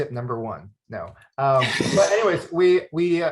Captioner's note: laughs